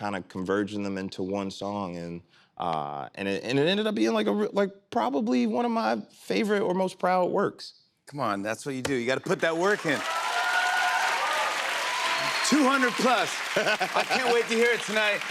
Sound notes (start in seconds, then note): 9.4 cheers and applause